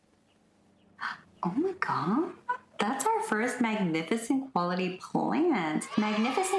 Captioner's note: inhaling in impressed; children's yay